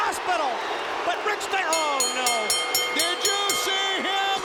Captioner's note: bell ringing